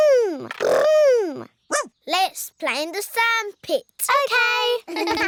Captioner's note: barks